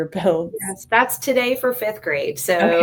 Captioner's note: laughs